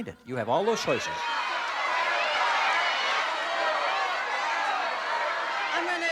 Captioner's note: audience yelling